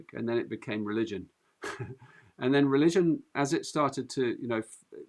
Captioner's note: chuckles